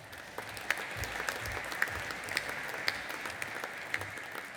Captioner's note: audience applauding